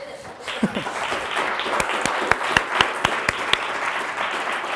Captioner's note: audience applauds